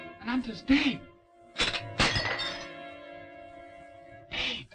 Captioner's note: china breaking